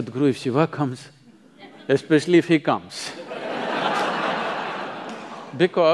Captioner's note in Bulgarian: смях